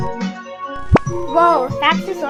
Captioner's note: blip